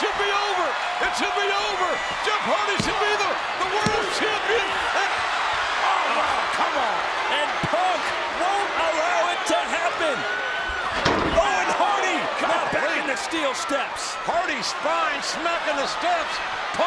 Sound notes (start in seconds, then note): 10.3 crowd cheers; 10.3 ring thuds